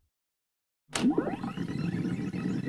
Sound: fast forward noises

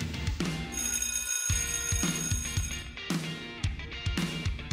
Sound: school bell rings

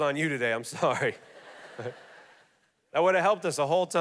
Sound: congregation laughing

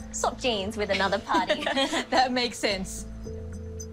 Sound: laughs

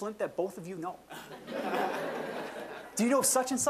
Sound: audience laughing

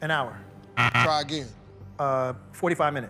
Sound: buzzer

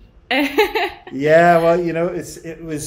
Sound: laughs

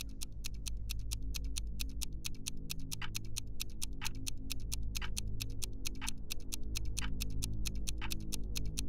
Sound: chirping of birds fade and is replaced by continuous clock-like clicking noise

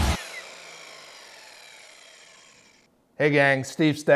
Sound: upbeat music; saw screeching

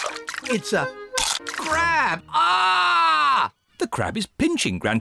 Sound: crunch; screams

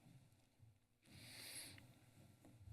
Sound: sniffles

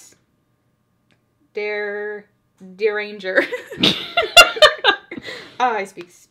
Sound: both laugh

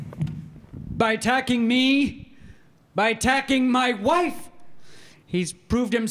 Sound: voiceover

